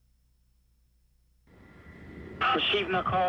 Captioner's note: plane engines roaring